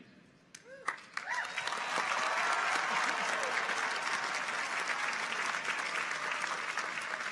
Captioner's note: people cheer; audience applauds